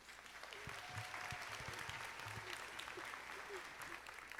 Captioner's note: audience applauding